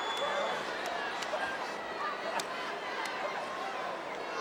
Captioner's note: audience cheering